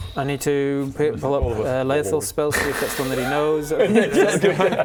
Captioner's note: sad bubbles